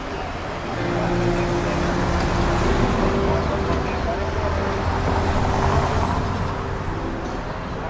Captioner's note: street sounds